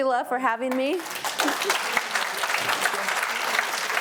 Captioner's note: audience applauds